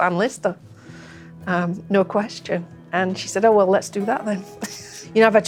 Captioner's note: laughter